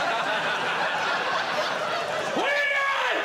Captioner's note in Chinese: 笑声